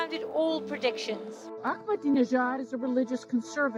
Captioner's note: soundbite of archived recording